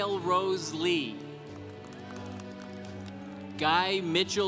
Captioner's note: congregation applauding